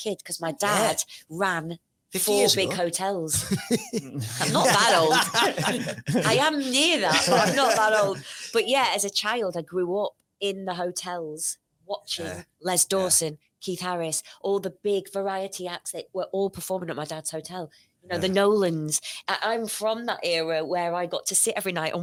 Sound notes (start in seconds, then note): 5.7 everyone laughs